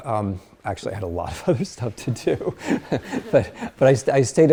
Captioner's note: laughs